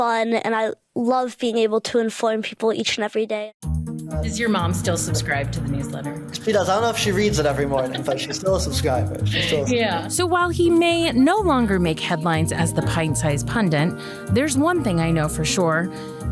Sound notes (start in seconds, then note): 7.5 laughs